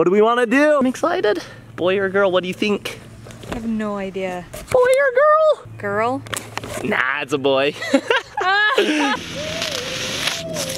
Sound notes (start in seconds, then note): 7.7 chuckles